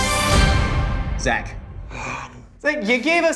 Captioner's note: dramatic music; group gasps